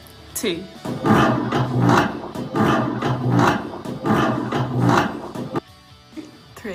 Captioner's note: sound of chair being dragged on ground